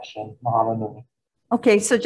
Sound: speaking foreign language

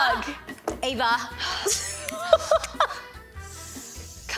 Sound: laughs

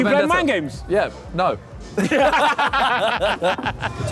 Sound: laughing

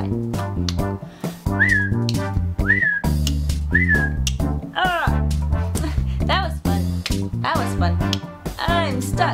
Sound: click

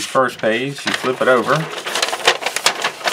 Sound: paper crinkles

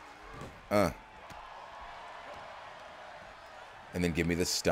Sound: applause

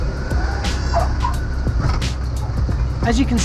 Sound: tyres screeching

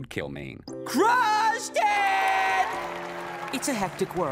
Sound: crowd cheering

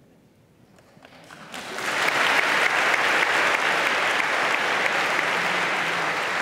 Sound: applause

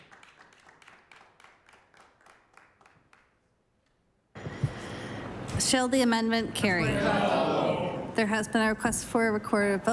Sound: applause

